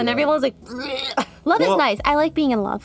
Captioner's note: retches